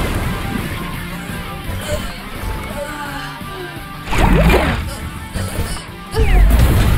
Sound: pained groans

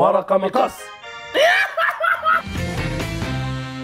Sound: laughs

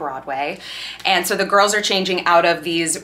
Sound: person sighs

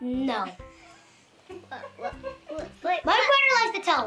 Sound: laughter

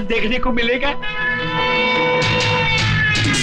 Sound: distant Siren Wailing

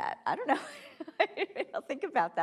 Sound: laughing

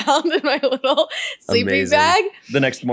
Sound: laughs

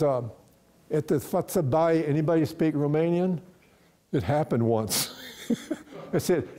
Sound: chuckles

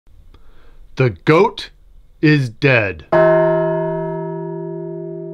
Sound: bell tolls

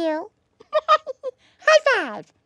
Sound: giggling

